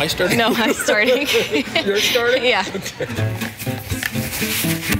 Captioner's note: laughter